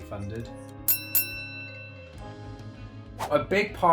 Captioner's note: ring bell chimes